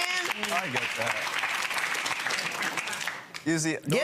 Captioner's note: audience clapping